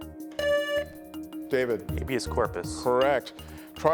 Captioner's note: buzzer buzzing